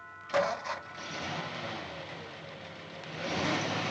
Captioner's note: engine rumbles